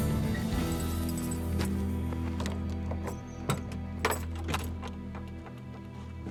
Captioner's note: keys jangling, unlocking